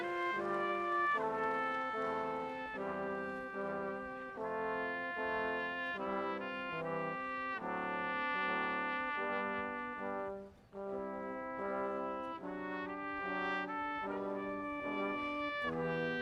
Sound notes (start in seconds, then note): none